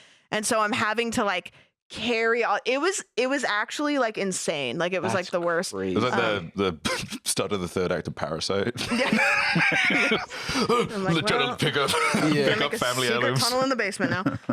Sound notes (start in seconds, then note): 8.6 laughs